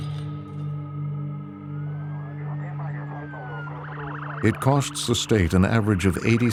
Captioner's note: sirens blaring